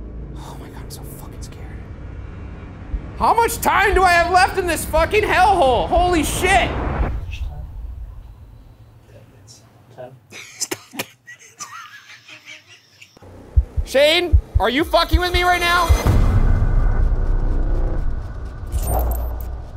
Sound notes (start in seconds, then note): 13.0 laughing; 16.0 ominous music continues